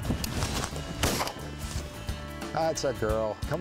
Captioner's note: bang!